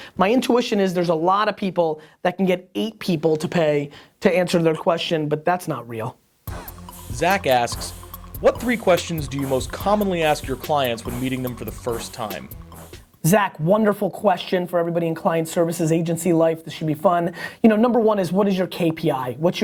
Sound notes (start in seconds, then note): 7.3 voiceover